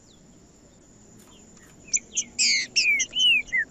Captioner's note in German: trinca ferro cantando